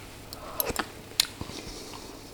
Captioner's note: slurp